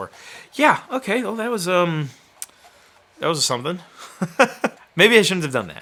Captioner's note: laughing